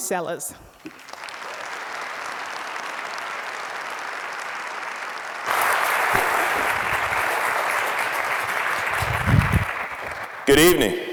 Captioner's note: applause